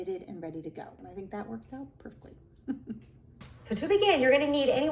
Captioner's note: laughs